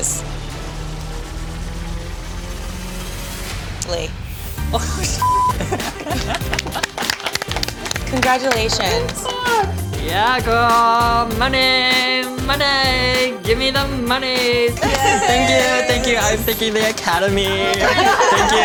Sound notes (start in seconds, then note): 0.3 dramatic music; 5.4 all applauding